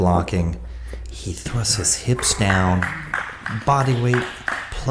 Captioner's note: applauding